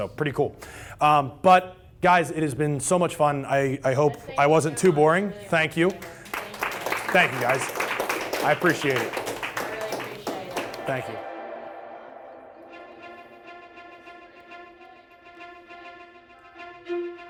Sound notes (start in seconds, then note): 5.7 applause; 12.0 closing music